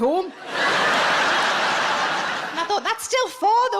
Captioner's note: audience laughs